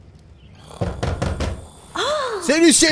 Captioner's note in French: On toque à la porte